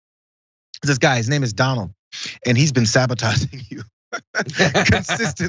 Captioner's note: laugh